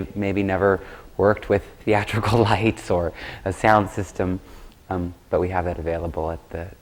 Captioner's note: laughs